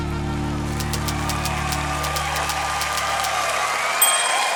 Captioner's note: cheering, applause